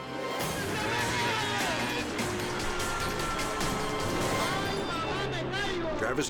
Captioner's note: dramatic music; announcer shouts in Spanish